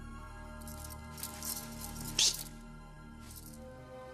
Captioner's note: breathes sharply